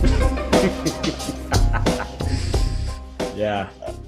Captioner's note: laughing